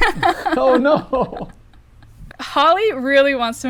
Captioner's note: laughter